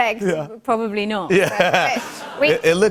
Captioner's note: laughter